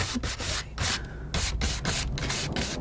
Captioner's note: scratching